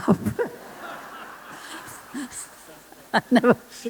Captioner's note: laughter